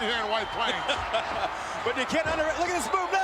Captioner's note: laughs